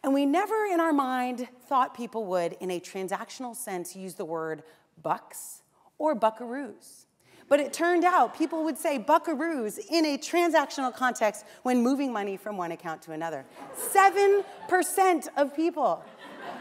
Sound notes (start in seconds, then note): 14.1 laughter; 16.0 laughter